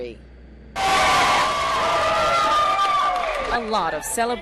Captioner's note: cheering